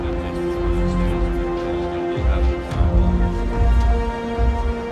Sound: chatter; dramatic music

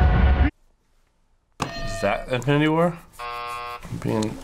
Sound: thrilling music; hitting bell; buzzer

